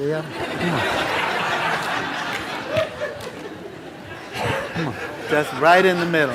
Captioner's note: laughter